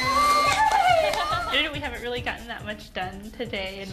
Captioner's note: whirring